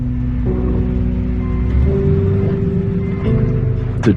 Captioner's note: vehicle beeps